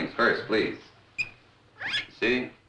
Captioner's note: guinea pig squeaking